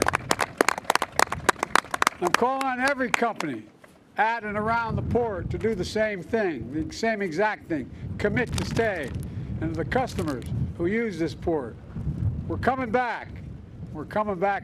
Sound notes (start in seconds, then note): 3.9 applause